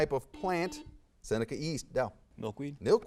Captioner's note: buzzer beeps